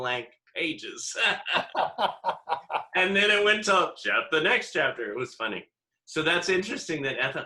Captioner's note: laughter